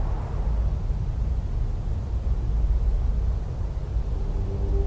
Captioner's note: wind